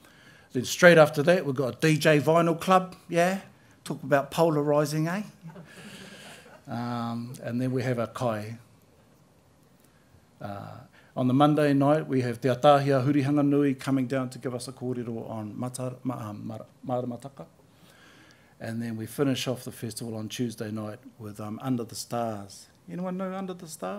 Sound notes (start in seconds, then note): 5.4 laughter